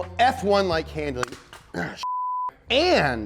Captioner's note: click; beep